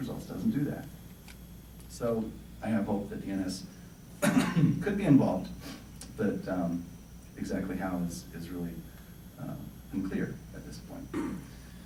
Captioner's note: coughing